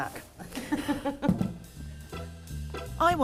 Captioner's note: laughs